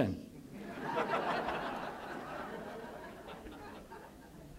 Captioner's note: laughter